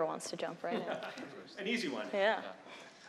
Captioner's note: chuckles